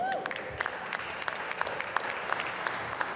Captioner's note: applause